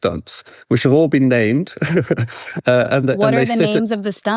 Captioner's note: chuckles